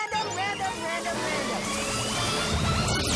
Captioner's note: lasers fizzle